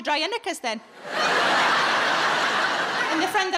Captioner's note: audience laughing